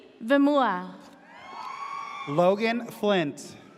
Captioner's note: audience cheers